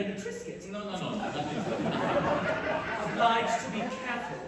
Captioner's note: laughter